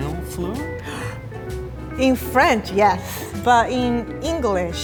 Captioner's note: foreign language; gasps